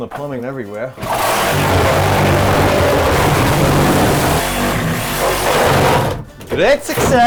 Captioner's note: drilling sounds